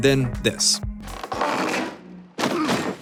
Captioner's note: squeaking; grunting